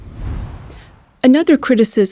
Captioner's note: screen whooshing